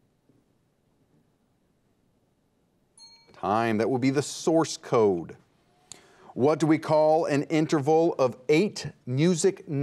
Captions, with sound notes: (timer dings) Time. That will be the source code. What do we call an interval of eight music notes?